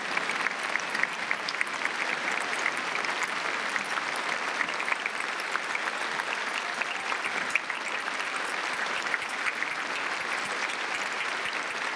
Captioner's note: applause